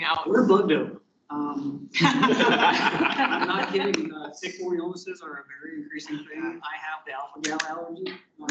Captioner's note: laughter